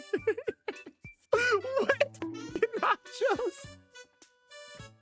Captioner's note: laughing